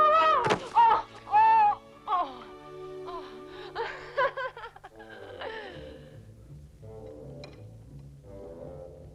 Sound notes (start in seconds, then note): 0.1 Hundra shouts; 1.2 Hundra groaning; 3.6 Hundra laugh; 6.3 austere music